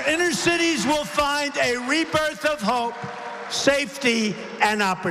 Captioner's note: applause